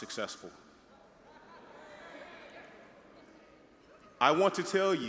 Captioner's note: audience murmuring